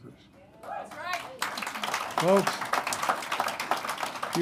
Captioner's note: applause